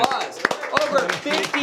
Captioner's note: applause